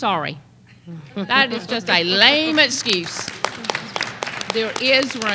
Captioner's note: applause